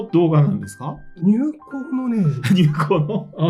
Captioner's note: laughs